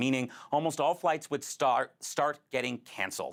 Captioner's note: none